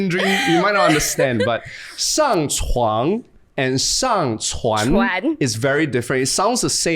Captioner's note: speaking in Mandarin